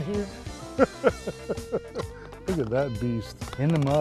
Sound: laughter

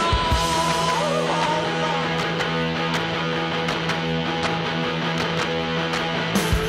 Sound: rhythmic clapping

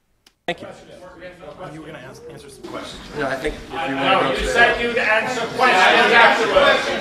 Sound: angry clamoring

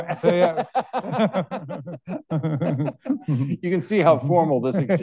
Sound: all laughing

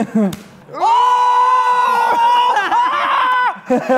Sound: screaming

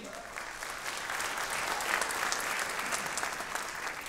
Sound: audience clapping

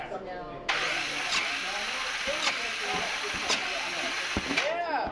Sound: sound of electric motor running

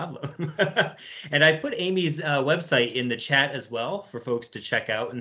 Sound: laughs

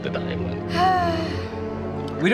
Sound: sighing

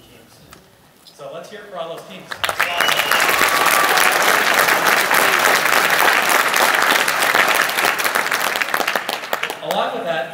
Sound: applause

